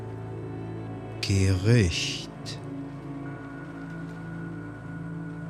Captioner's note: german